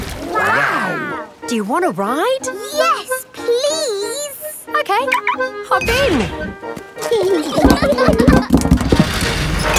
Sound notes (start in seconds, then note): 7.0 children giggling